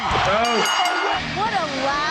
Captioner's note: bell rings